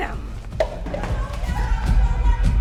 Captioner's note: yelling